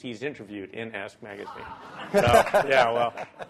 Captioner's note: laughter